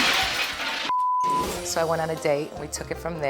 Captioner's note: glass shattering; beep